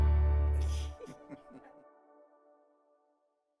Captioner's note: laughter